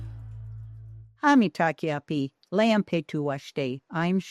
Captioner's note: speaking Native language